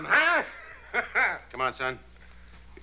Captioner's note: Elly laughs